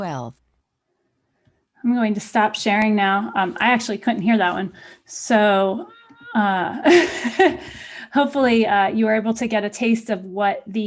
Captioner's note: laughter